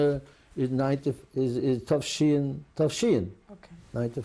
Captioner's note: non-english